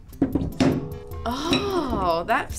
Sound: piece clicks

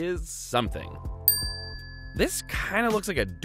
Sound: dings

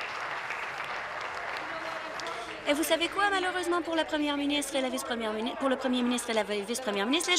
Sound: applause

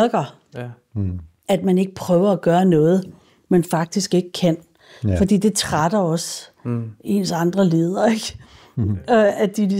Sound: laughs

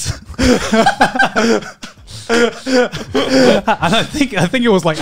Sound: everyone laughs

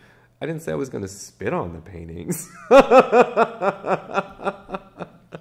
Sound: laughs

